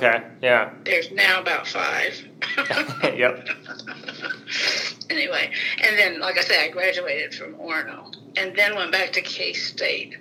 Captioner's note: both laugh